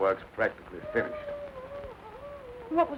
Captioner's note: wolf howling in distance